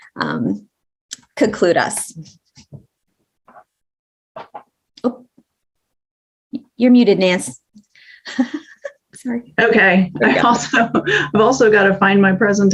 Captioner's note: laughs